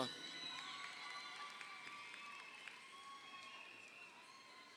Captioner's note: crowd cheering